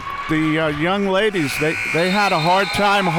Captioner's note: buzzer